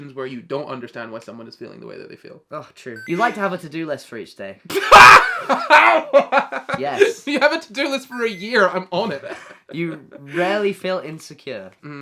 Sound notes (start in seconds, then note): 4.7 laughs